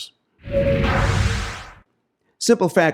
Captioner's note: whooshing